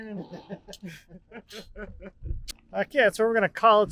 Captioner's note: men laughing